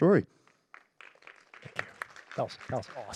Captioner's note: applause